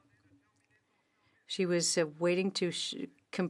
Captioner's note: speaking French